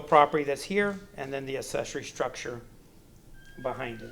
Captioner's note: distortion